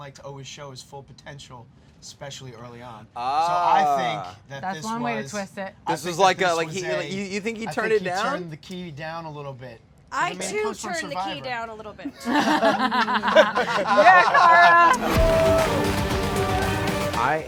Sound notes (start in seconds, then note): 12.1 laughing; 14.9 dramatic music